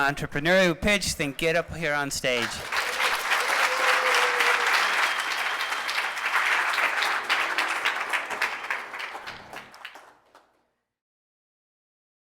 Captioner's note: applause